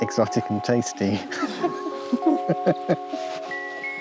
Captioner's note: both laugh